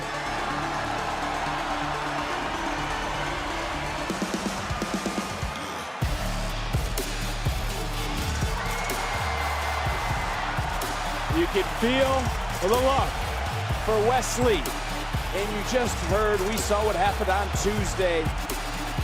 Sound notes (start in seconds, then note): 1.9 crowd cheers